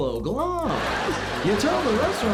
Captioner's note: laughter